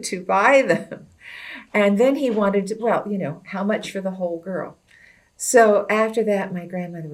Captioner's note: laughs